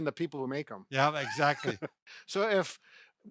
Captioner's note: both laughing